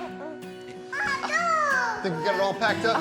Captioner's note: babbles excitedly